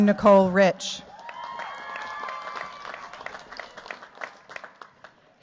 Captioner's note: cheers, applause